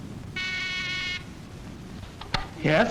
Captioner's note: buzzing